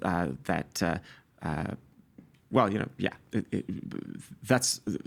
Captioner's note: stammering